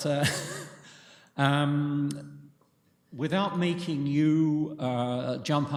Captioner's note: laughter